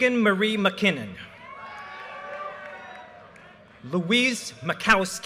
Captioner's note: audience cheers and applause